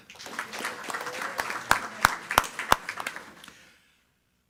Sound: attendees clapping

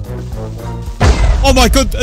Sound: explosion

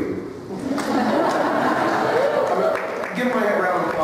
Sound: laughter

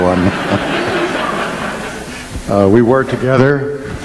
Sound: audience laughing

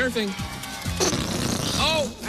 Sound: farting noise

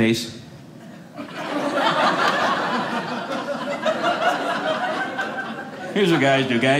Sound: audience laughing

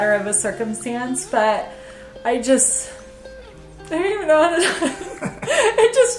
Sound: laughs

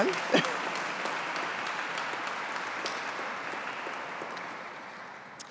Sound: audience clapping

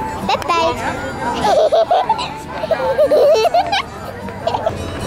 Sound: giggling

